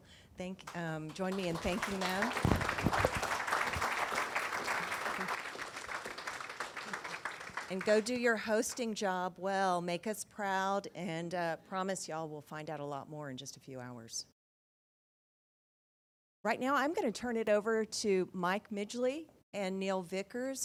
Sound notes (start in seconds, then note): 4.0 audience applauding